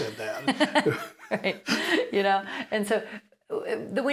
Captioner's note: both laugh